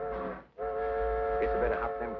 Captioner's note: train horn whistles